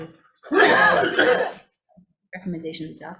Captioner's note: chair member coughs